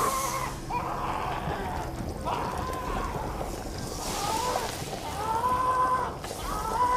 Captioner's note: Remy yells in pain; body gurgles